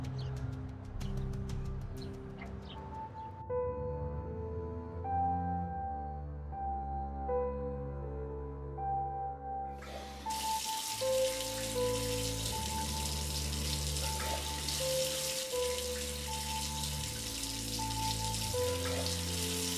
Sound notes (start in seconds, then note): 0.0 dramatic music; 1.9 birds chirping; 3.0 gentle music